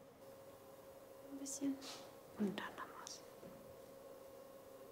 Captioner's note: quietly